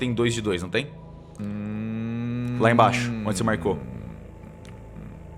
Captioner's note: humming in agreement